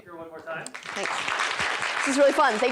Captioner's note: applause